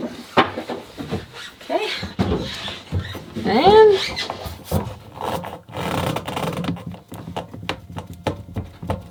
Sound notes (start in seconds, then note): 4.6 squeaking